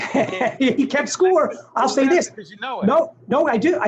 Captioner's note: laughing